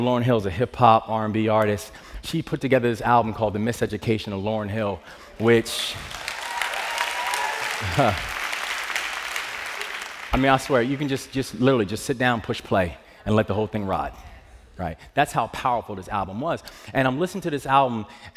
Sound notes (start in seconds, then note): 7.1 cheers and applause; 9.0 chuckles